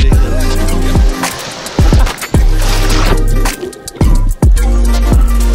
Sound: water splashing

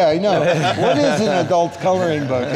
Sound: laughing

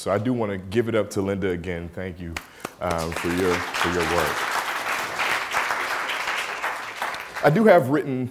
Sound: applause

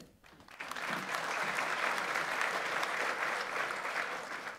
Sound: audience applauds

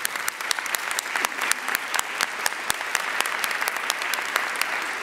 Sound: audience applauding

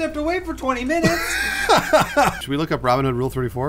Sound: laughing

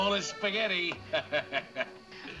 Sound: laughs

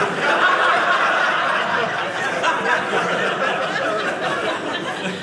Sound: audience laughing

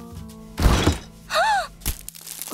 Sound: gasping

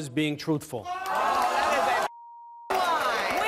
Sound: audience yells and boos

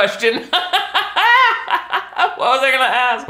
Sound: laughs

